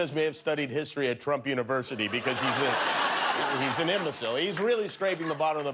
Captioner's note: laughter